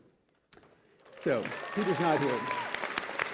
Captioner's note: cheering